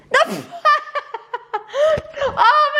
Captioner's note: laughs